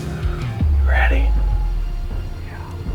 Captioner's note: whispering